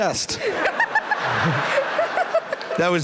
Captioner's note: laughter